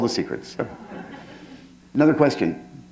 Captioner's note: laughter